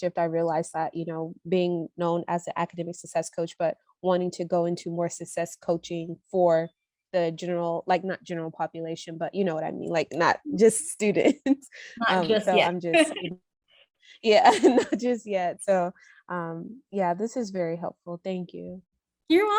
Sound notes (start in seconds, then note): 12.9 laughs